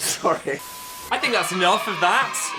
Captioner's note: both laughing; tone beeping